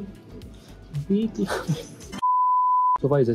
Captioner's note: laughs